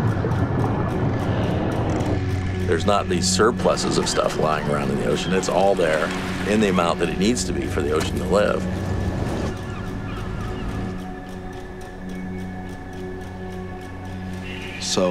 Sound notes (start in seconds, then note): 9.7 gulls cry; 11.3 clocks tick